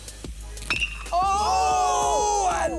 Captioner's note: bat hits ball